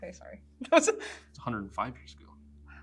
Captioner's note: laughs